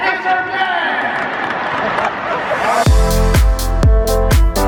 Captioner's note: audience applauding; upbeat music